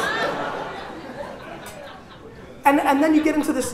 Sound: laughter

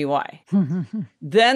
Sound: chuckles

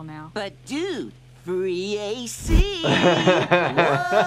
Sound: laughs

